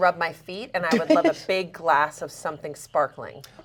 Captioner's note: laughs